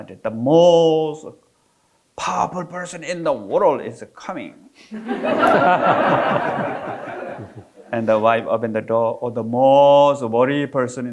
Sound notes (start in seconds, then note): 5.0 audience laughing